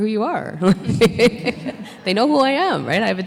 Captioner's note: laughs